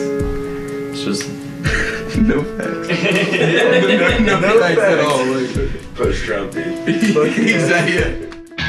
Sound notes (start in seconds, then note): 1.6 off screen laughing; 4.2 all laughing